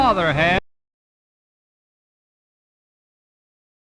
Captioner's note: audio missing